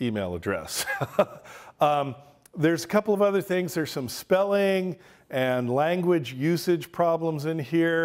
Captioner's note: laughs